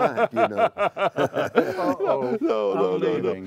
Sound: laughter

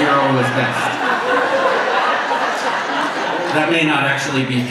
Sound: audience laughs

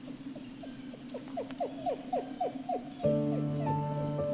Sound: wolf barking

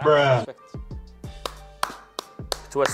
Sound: claps

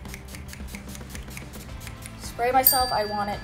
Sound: bottle spritzes

